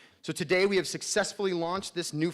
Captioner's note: none